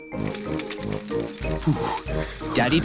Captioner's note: panting